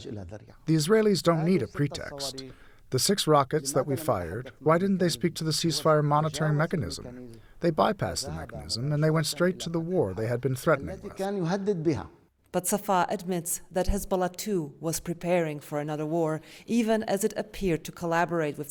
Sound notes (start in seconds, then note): 1.0 through translator